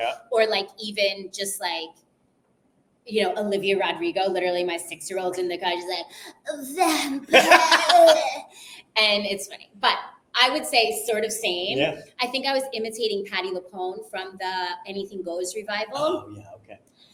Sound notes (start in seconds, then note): 6.1 mouth rumbling